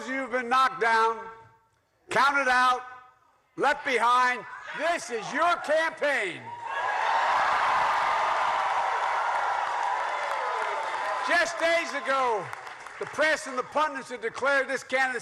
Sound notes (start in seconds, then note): 6.4 cheers and applause